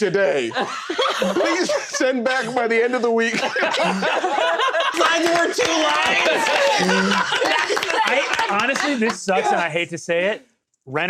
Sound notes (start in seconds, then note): 4.0 laughter; 6.5 cough laughing, clapping